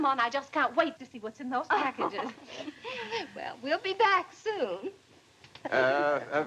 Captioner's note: chuckles